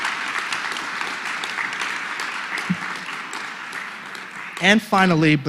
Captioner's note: applause